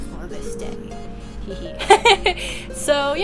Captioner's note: laughter